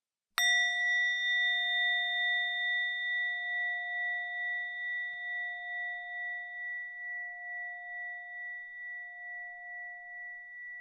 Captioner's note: bell sound